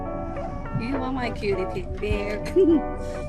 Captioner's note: giggles